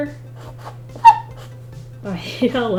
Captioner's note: pencil squeaks